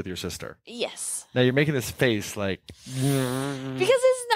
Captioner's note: moaning